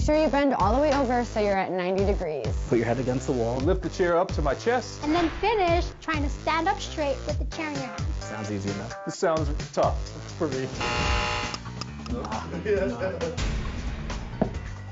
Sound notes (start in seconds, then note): 10.7 buzzer buzzes; 12.2 man laughs